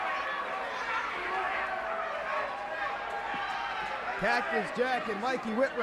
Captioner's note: crowd chatter